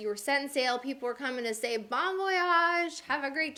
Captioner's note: speaking in foreign language